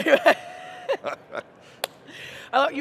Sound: both laughing; hands clapping

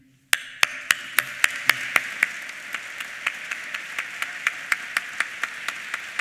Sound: applause

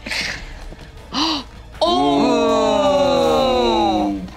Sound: oohs

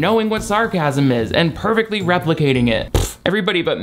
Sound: blows raspberry

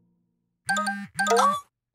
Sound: phone chiming

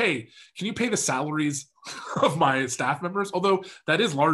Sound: chuckles

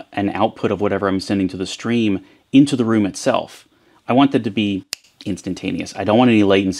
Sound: snaps fingers

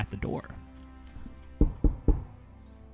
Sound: knocking

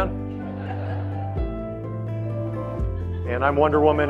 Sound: audience laughing

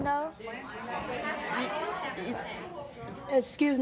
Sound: audience talking excitedly

